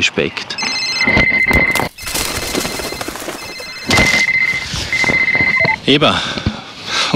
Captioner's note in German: lauter Klingelton